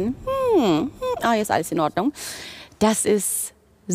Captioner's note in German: summt